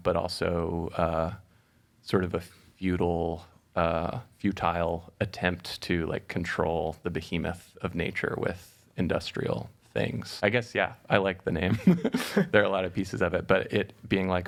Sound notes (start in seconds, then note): 11.7 chuckling